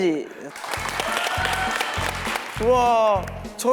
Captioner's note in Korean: 많은 성원과 박수